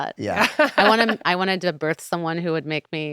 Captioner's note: laughing